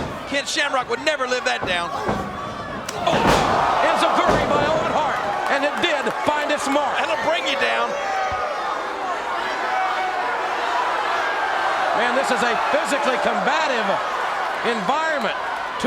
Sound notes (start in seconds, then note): 1.5 kick thuds; 10.0 crowd yelling